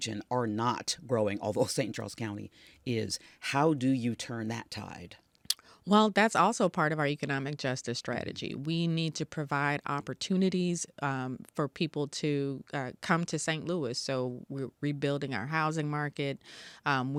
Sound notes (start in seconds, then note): 5.4 Tishaura clicks tongue